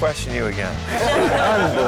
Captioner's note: lalaugughthterer